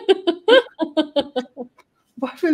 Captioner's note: laughing